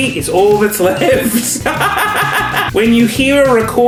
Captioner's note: laughs